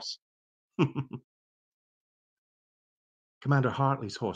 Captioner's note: chuckling